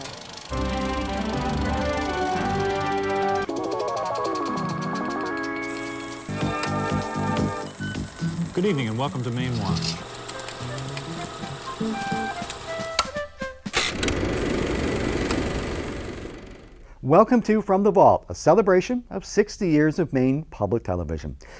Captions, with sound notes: (upbeat music) (mysterious music) - Good evening and welcome to Mainewatch (upbeat music) (projector clicking) Welcome to "From the Vault", a celebration of 60 years of Maine Public Television.